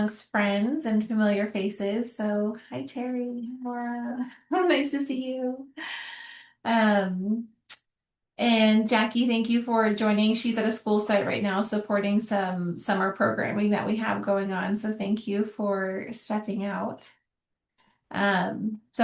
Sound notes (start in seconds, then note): 5.8 gasps and sighs